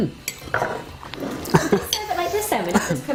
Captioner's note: laughter